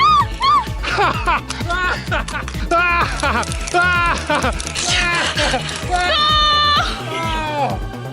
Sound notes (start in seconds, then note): 1.9 laughing